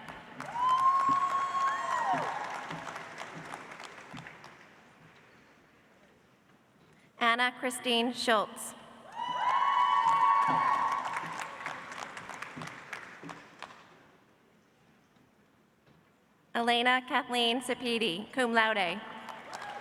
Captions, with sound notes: (audience applauds) Anna Christine Schultz. -(audience applauds) -(audience cheers) Elaina Kathleen Sepede, cum laude.